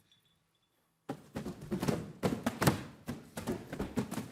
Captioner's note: boxes thudding